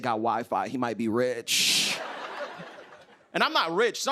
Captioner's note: laughter